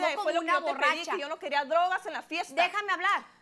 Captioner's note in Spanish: Hablan al unísono